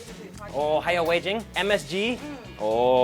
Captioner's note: speaks in a foreign language